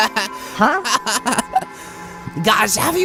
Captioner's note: Coiny laughs; Coiny laughs more